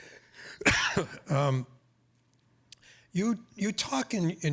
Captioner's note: coughing